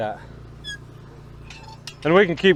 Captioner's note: machine squeaks